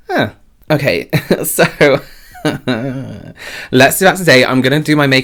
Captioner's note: chuckles